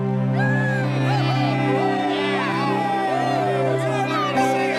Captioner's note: crowd cheering